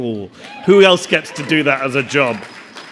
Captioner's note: audience cheering; audience applauding